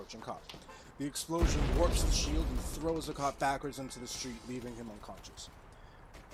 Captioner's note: thwoop!; boom